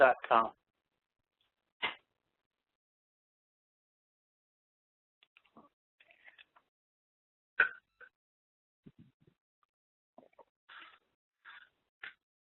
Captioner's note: silence